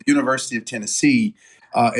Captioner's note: laugh